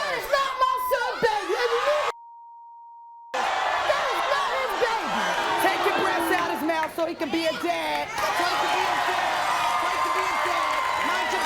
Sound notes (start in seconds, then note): 1.5 beep; 3.3 audience screams; 9.8 audience cheers